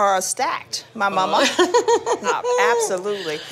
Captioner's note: laughter